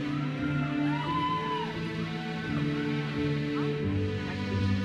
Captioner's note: audience cheers and applauds